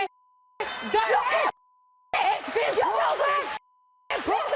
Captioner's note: yelling and arguing